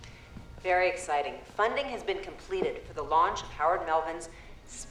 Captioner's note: on TV